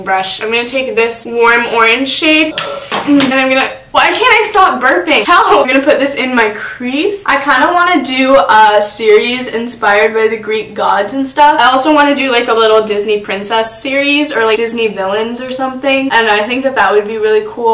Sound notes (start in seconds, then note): 2.4 burp